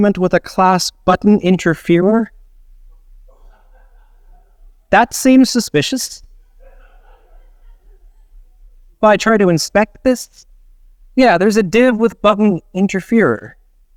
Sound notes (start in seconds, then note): 3.2 audience laughs; 6.4 audience laughs